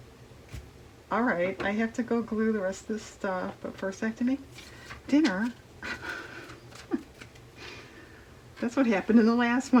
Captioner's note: laughs